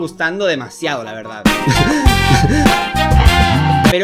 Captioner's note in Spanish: risas